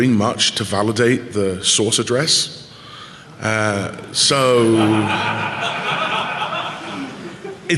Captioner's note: laughing